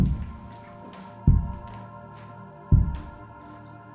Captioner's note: thudding gets louder